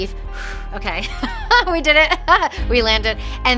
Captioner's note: exhales